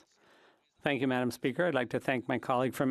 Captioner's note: speaking French